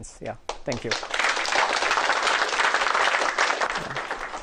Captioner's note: applause